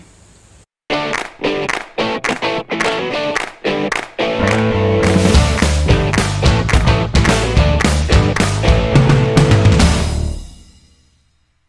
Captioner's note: claps